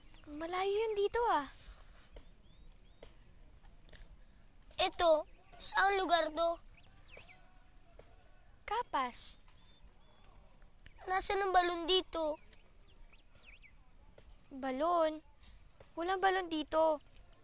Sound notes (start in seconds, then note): none